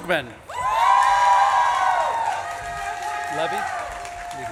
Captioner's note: audience claps and cheers